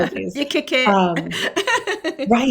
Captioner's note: laughs